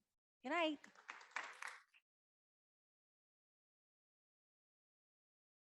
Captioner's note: audience applauding